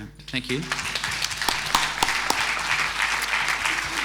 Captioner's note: applause